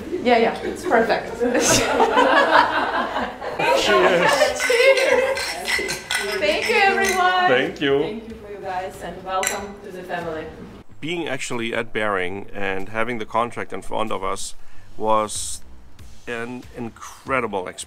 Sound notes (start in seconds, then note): 2.1 laughing; 5.3 glasses Clanking